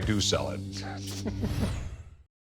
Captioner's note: laughs